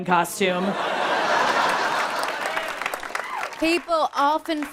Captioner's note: people laughing